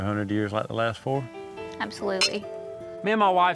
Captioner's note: glasses clink